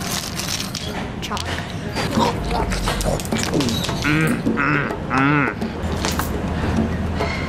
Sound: eating sounds

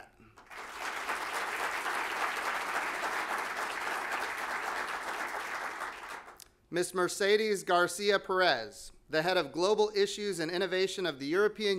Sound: applause

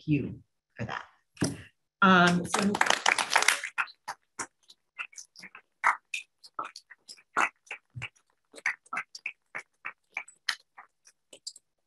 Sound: applause

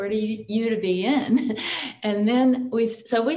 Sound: chuckles

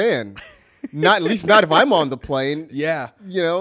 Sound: laughs

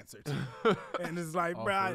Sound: laughs

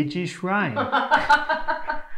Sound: laughter

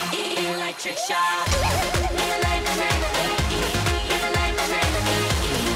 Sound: everyone is laughing from watching dance

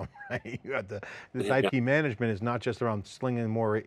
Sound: laughs

